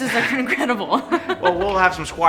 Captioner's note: laughs